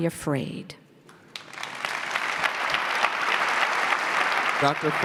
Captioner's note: audience clapping